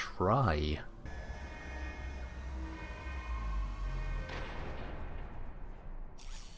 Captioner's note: alarms blaring